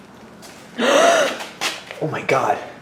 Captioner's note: gasp